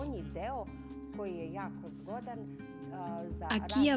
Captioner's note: Hablando idioma extranjero